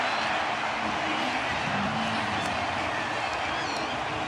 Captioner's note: cheering